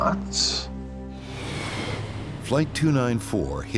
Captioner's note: sinister music; airplane engine roaring